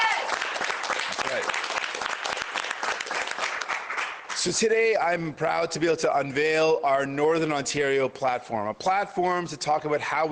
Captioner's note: cheers and Applause